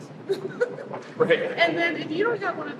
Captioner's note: laughing